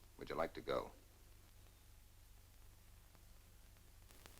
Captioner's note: none